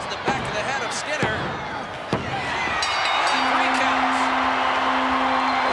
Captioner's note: hands thudding; lively music